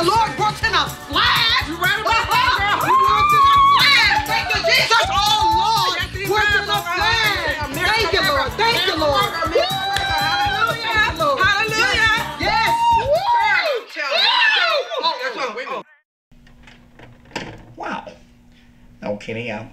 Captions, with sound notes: The Lord works in a flash. - You right about that there. (screaming) (gospel music) - Thank you Jesus, oh Lord, thank you Lord, thank you, thank you. - Hallelujah, hallelujah. - Yes, yes, praise him. - Wow, no Kenny mother doesn't have any money either.